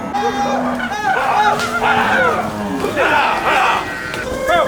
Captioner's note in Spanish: vaqueros gritando